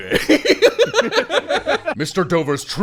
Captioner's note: delighted giggling